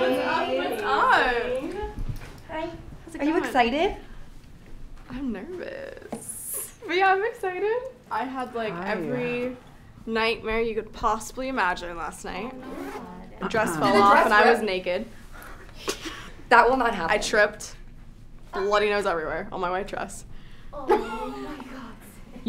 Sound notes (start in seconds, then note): 15.3 chuckles